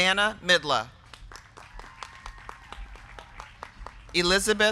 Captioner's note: crowd clapping; crowd cheering